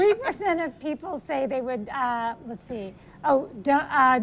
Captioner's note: laughs